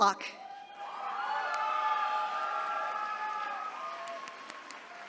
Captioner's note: attendees cheering